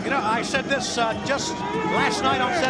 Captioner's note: crowd chatter